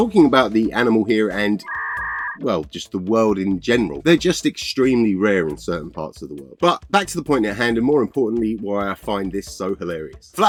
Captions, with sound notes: Talking about the animal here and...well, [Computer error sound] well, just the world in general. They're just extremely rare in certain parts of the world. But back to the point at hand, and more importantly, why I find this so hilarious.